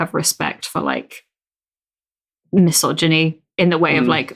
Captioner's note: whispers